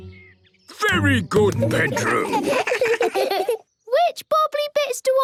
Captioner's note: children giggle